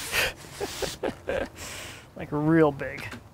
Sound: laughs softly

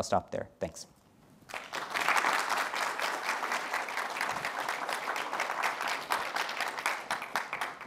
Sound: applause

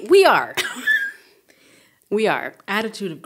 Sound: wheezes

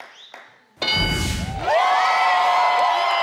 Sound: dings

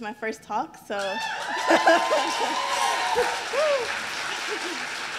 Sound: cheers and applause

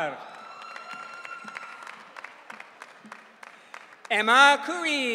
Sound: audience cheering

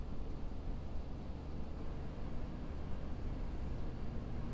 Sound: fans whirring

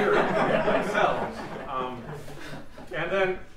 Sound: laughter

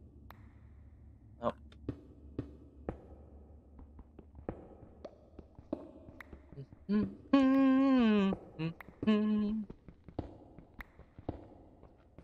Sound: hums

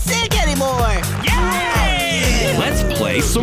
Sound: cheering

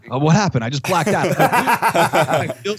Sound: laughter

